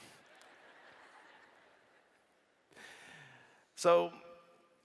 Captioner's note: laughter